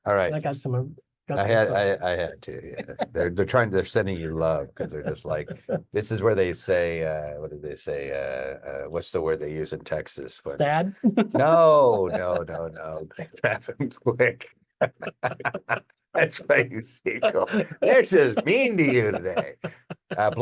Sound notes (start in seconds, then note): 2.4 speaker laughs; 11.1 laughs; 14.8 speaker and owner laugh